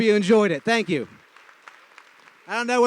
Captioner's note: applause